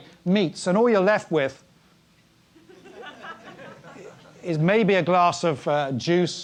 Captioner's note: laugh